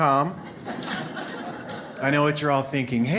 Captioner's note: audience laughs